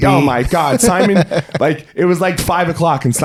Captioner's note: laughing